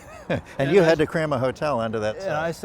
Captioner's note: laughter